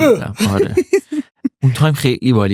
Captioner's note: laughs